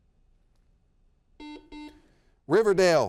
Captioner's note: buzzer beeps